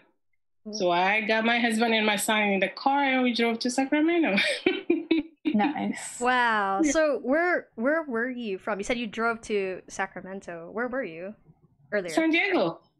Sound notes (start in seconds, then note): 4.5 laughs